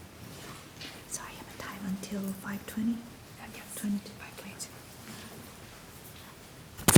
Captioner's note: faintly speaking